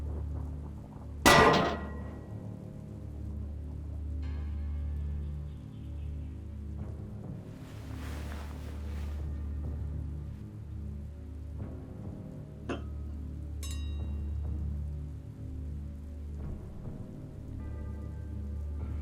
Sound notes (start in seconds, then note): 1.2 metal clanks